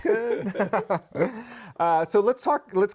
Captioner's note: laughs